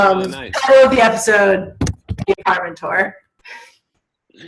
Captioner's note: murmurs